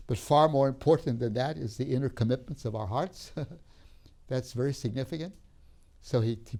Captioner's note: laughs